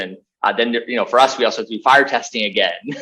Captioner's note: laughs